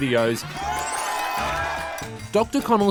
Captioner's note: cheering